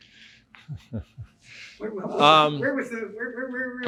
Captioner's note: laughs